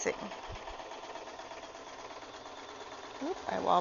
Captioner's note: sewing machine